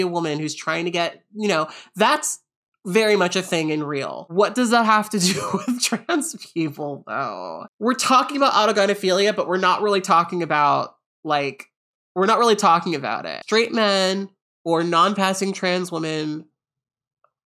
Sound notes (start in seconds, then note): 6.9 laughs